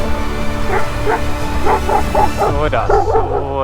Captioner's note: Turkish